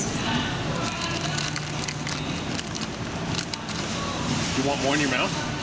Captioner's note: plastic bag rustling